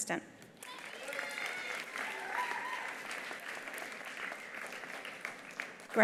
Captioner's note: attendees applauding